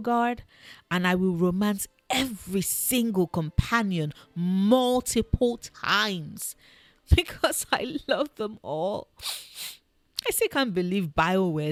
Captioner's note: sniff